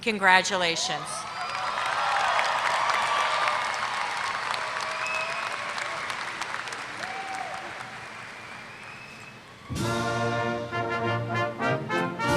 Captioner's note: applause